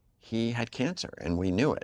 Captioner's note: none